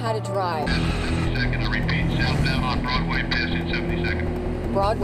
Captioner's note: voice on radio